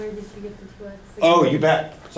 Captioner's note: voiceover